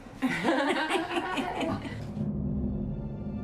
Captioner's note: laughing